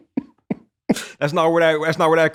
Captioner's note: laughter